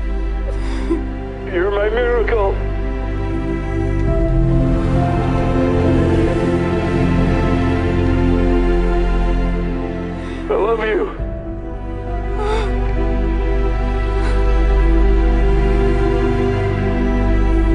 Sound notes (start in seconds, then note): 0.4 sobbing; 3.1 dramatic somber music; 11.6 exhales sharply